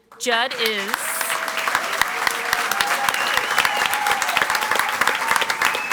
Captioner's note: audience applauds and cheers